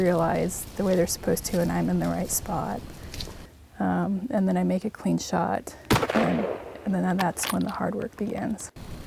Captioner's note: gunfire